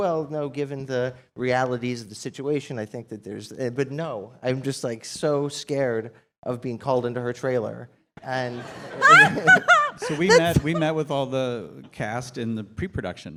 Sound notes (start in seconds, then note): 8.6 laughs